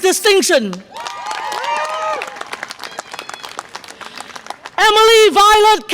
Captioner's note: audience applause and cheer